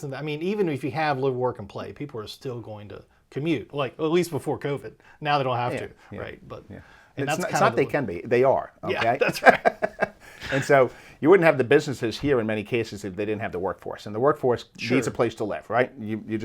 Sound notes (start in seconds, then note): 10.5 laughing